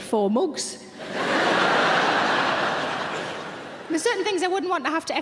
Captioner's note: audience laughing